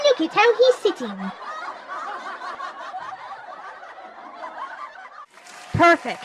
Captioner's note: audience Laughter